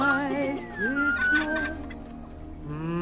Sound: kids giggling

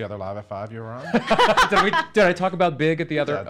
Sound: everyone laughs

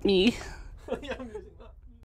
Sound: laughing

